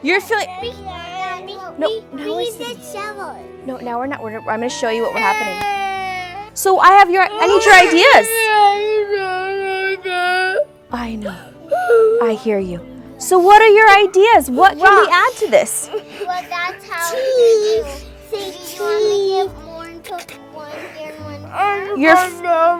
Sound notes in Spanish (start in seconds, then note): 7.2 Niño llorando; 15.9 Llorando; 16.9 Lloriqueo infantil